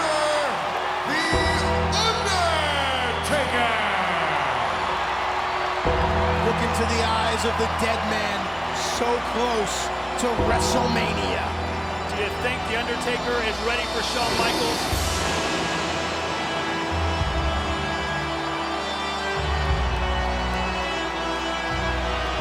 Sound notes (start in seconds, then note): 4.8 crowd cheering; 15.9 dramatic music